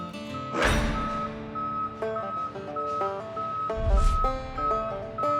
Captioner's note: beeping